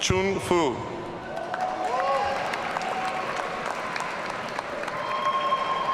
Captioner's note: audience cheering